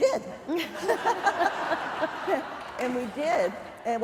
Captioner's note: laughter